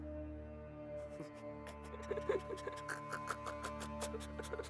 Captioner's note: laughs